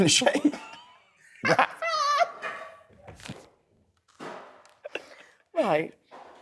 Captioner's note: laughs